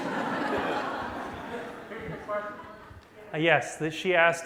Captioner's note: laughter